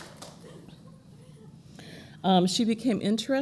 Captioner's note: applause